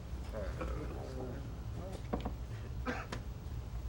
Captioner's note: men groaning